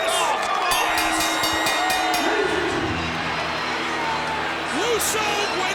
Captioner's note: bell rings